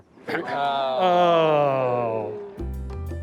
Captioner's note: groaning playfully; upbeat music